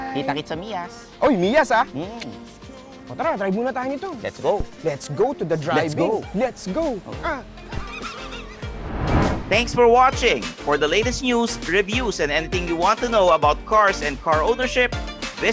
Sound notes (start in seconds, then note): 7.7 laughs